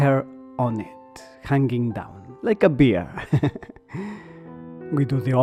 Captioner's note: laughter